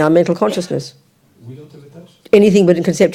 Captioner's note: audience member speaks in French